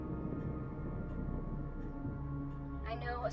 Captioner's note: thunder rumbling